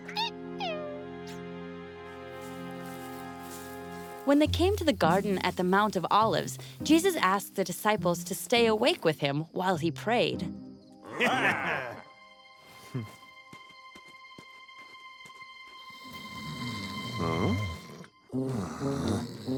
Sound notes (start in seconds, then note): 16.0 snoring